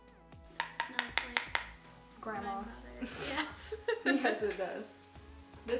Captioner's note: laughs